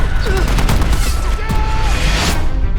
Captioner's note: automatic gunfire